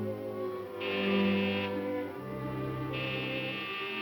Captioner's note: door buzzing